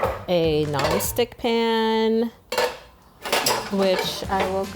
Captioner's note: pans clanking